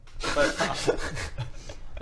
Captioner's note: laughs